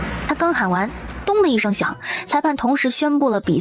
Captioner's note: thud